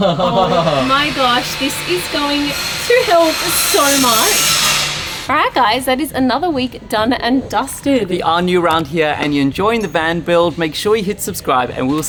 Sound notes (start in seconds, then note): 0.0 laughing; 3.5 drilling in background